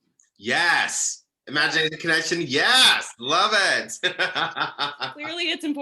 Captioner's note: laughs